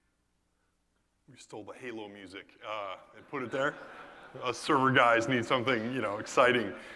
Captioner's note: laugh